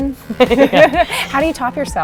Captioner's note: laughing